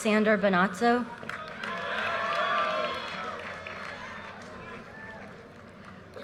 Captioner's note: audience cheers and applause